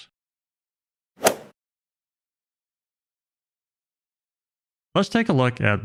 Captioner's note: golf ball hit sound effect